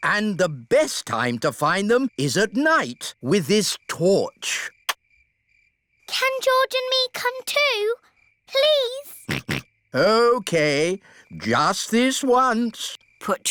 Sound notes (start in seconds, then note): 9.2 snorts